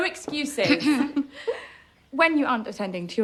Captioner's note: Mary clears throat